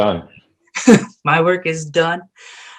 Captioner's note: laughing